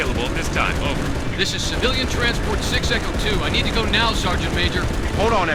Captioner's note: radio